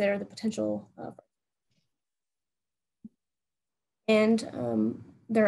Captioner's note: audio cuts out